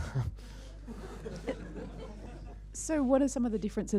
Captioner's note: laughing